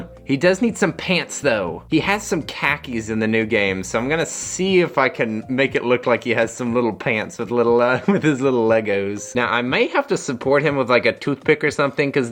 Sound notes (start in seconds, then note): 7.9 chuckles